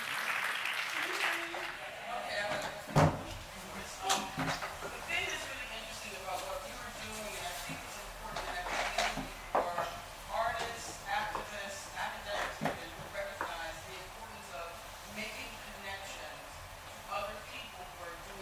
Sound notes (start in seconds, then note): 0.0 applauding; 3.9 murmuring; 9.0 rustling